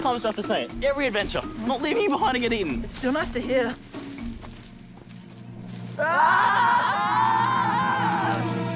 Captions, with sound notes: How often do I have to say it? Every adventure. I'm not leaving you! It's still nice to hear. [boys scream]